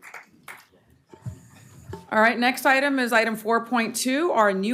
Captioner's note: applause